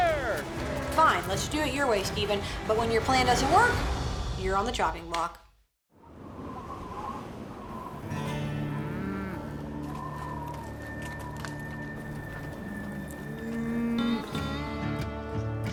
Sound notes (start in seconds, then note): 6.0 wind blowing; 8.0 cows moo